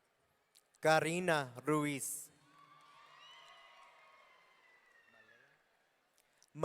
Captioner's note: audience cheering